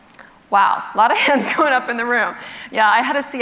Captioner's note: laughs